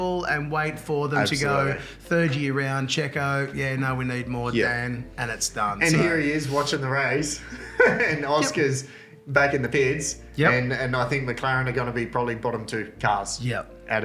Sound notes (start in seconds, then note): 7.4 laughs